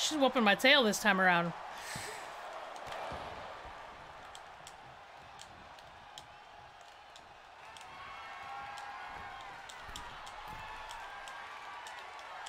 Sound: applause

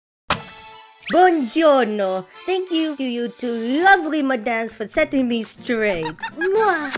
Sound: Nacho henceforth speaks with an Italian accent; Glassy laughing hysterically

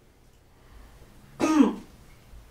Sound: clears her throat

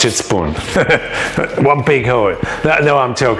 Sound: laughs

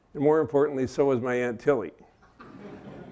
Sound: laughter

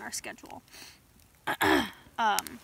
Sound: clears throat

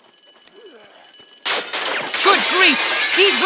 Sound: glass breaking

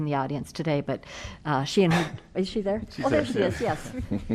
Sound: laughter

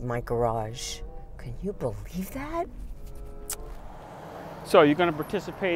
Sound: clicks

